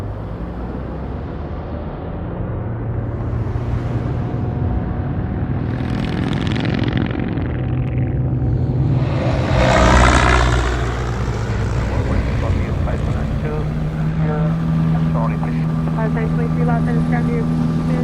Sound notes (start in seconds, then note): 6.5 motorcycle engine revs; 8.1 airplane engine noise